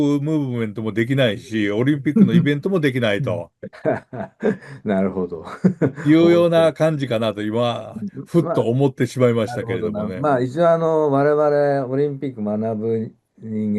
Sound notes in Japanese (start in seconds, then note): 2.0 笑い